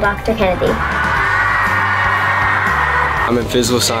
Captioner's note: students cheering